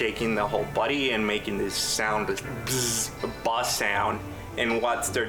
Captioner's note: imitates buzzing